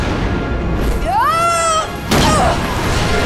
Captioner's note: grunting